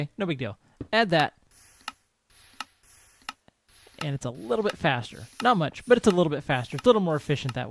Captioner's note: clicking resumes